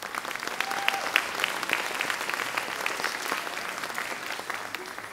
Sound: audience clapping

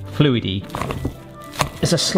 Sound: mash squelching

